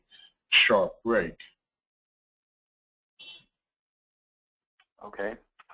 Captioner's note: silence